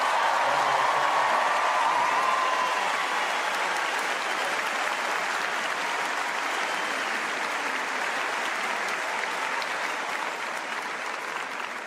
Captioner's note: cheers and applause